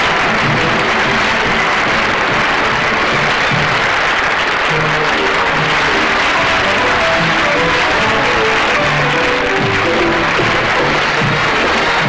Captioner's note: audience Applauding